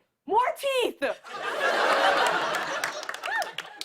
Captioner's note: laughter